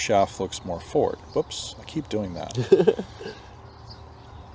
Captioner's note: laugh